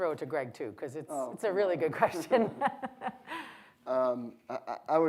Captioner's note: laughs